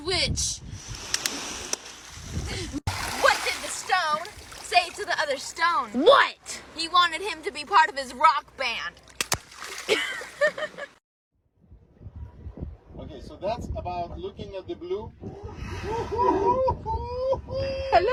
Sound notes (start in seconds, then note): 15.5 whale breath